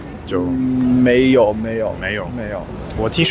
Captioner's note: chinese